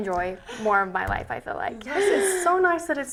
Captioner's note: laughs